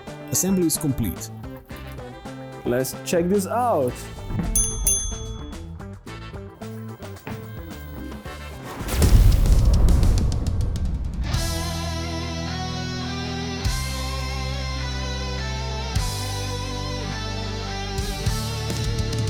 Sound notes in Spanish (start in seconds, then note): 8.8 Explosión del logo de BK42